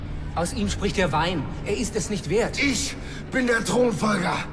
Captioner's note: groaning